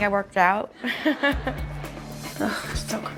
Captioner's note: laughs